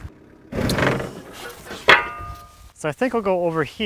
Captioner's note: tractor shudders